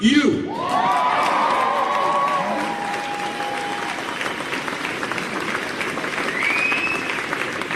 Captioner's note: audience applauds